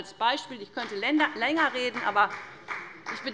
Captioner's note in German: Beifall der Abg